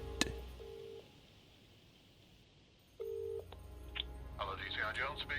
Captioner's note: phone rings